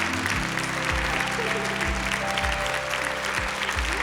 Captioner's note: applause